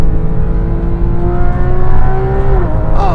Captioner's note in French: Vrombissement du moteur